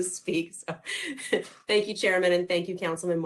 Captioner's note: laughter